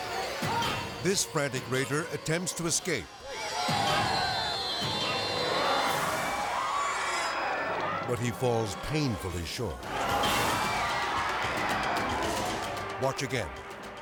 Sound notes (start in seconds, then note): 3.0 people clamoring